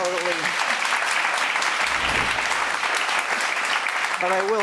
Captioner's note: audience clapping